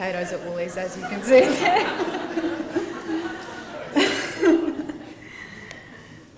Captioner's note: laughter